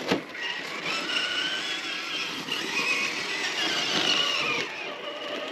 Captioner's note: vroom! Vroom! Vroom!